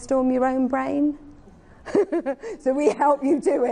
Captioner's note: giggles